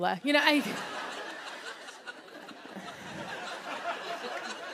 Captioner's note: laughter; applause